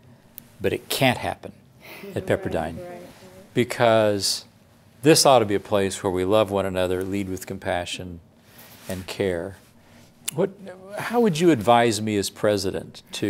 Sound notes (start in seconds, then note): 1.8 murmuring in agreement